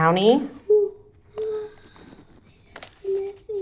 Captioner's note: girl gasping